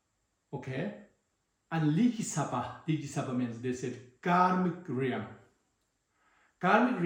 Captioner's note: tibetan